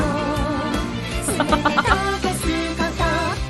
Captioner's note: chuckles